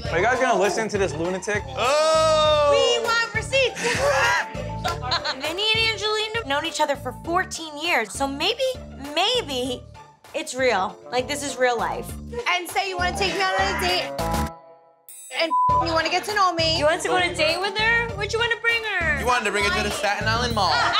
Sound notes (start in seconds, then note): 15.2 beep